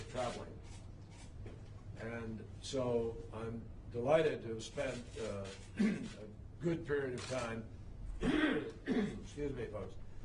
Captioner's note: clears throat